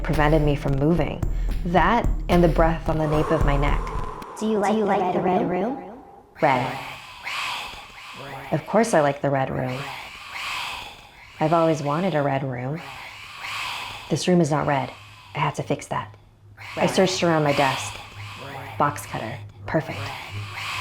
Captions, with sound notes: prevented me from moving. That, and the breath on the nape of my neck. (exhaling) - [Computer Voice] Do you like the Red Room? - Of course I like the red room. I've always wanted a red room. This room is not red. I have to fix that. I searched around my desk. Box cutter. Perfect.